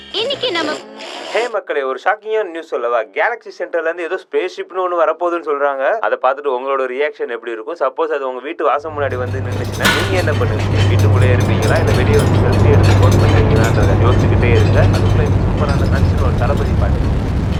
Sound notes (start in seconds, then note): 10.4 clanging Noise